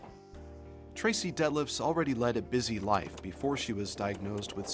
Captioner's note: voiceover